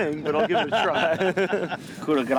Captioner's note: laughing